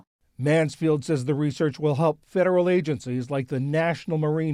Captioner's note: voice-over